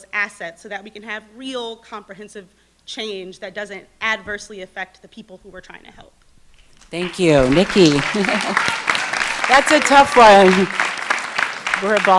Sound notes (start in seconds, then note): 6.8 audience clapping; 7.4 laughs